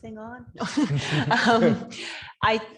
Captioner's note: laughing